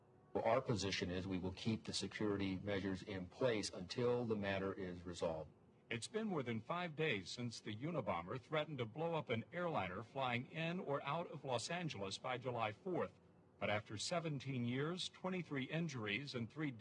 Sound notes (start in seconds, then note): none